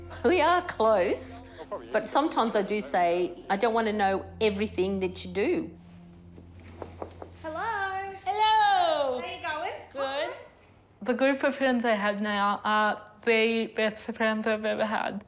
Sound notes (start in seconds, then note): 6.6 knocks